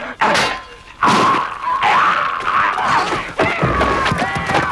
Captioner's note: man groaning; men shouting